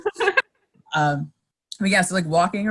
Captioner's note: laughing